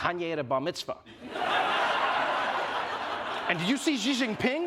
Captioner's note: laughter